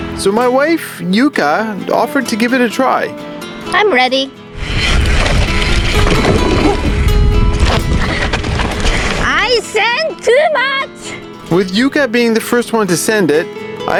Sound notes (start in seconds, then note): 4.5 dirt crunching; 7.8 grunts